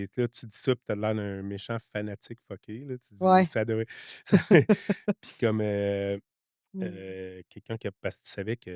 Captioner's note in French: rires